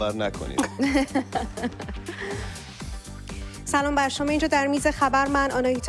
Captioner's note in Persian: خنده